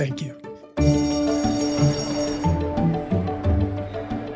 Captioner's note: bell ringing